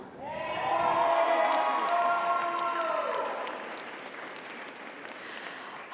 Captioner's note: audience cheers; audience applauds